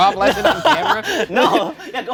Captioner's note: laughing